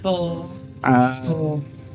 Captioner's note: Speaking Cebuano